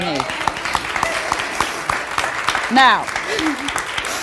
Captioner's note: audience applauds